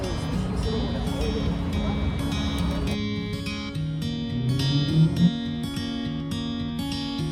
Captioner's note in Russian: Шум улицы